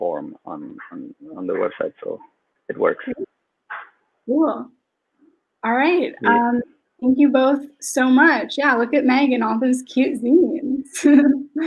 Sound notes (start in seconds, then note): 10.9 laughs